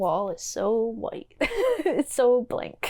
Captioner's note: giggle